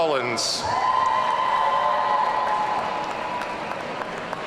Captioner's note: audience cheering